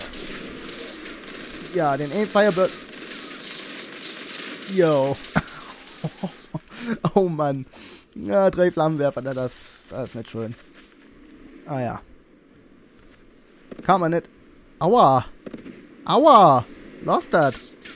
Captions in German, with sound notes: Ja... Der eine "Firebird"... Oh Mann! *Lacht* Ja, drei Flammenwerfer. Das ist nicht schön. Na ja. Kann man nicht... aua! AUA! Lass das!